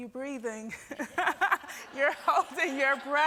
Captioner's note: laughs